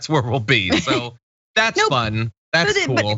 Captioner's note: laugh